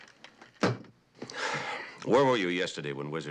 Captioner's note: sighs